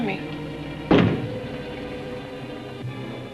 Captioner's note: knocks